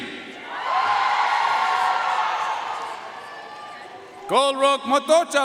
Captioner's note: audience cheering and applauding